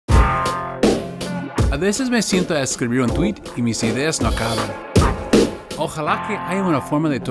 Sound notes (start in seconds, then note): 0.0 upbeat drum music; 2.2 Spanish